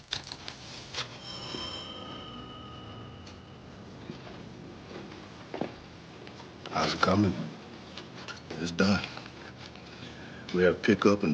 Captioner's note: telephone rings